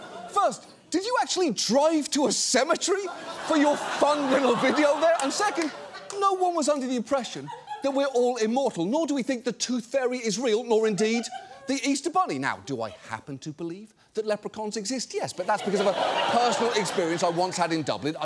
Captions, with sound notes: First, did you actually drive to a cemetery for your fun little video there? And second, no one was under the impression that we're all immortal, nor do we think the tooth fairy is real, nor indeed the Easter Bunny. Now, do I happen to believe that leprechauns exist? -(AUDIENCE LAUGHS) -Yes, but that's because of a personal experience I once had in Dublin.